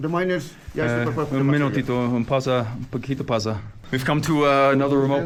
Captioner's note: speaker speaking foreign language